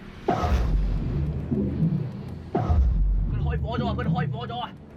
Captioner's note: water bubbling